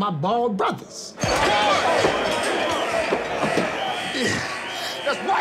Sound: whistle blowing; inmates shouting

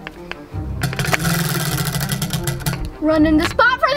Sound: wheel clanks around metal axle

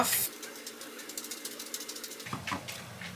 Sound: chewing

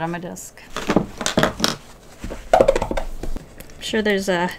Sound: squeaky cleaning noises of the squeakiest variety

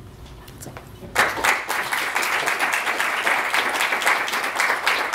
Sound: applause

